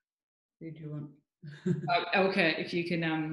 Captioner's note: laughs